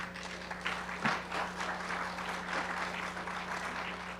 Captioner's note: audience applauding